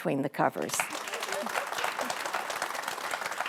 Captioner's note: clapping